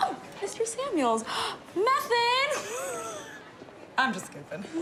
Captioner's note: gasps